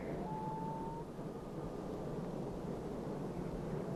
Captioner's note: birds calling